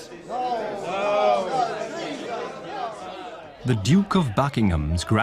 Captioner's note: crowd grumbles